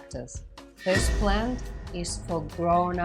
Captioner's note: whooshing